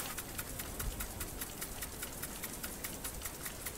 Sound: distant water sprinkler

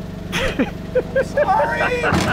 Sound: laughing

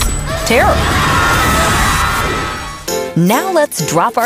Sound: screaming

